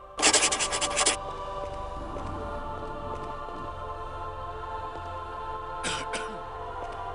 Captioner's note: sigh